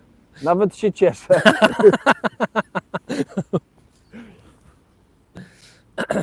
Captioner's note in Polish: śmiech